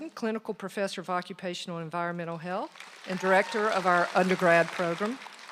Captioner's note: applause